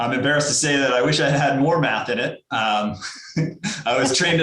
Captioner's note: laughs